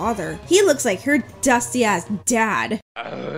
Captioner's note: dramatic reading